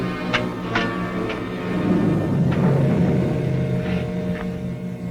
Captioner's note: metal clanking